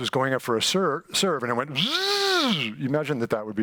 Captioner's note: mimics sound